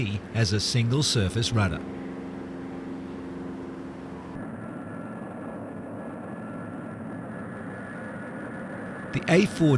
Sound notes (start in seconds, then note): 6.9 plane flying